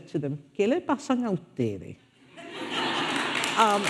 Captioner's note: speaking foreign language; audience laughing and applauding